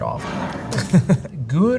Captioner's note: jar sliding; laughing